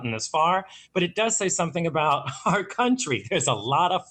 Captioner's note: laughing